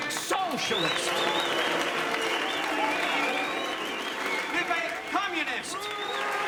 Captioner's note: audience applauds and jeers; audience cheers and boos